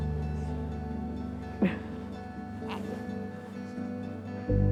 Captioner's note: laughs